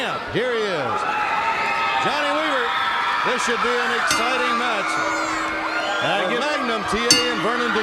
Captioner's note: crowd cheering